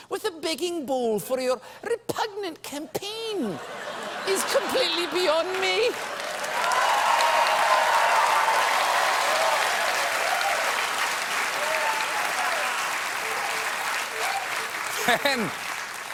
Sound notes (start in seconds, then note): 4.5 cheers and applause